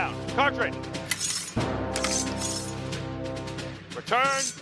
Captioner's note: metal clashing